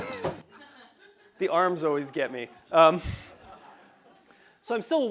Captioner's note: laugh; laugh